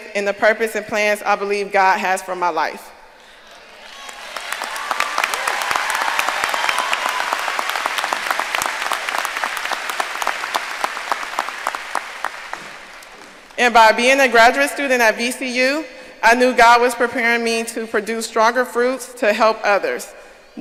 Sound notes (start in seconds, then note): 3.5 audience cheering and applauding